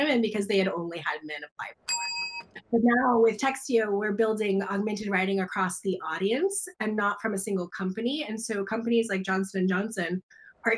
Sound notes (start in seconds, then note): 1.8 bell dings